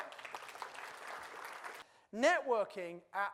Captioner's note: audience claps